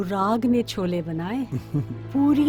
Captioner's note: Pradeep laughs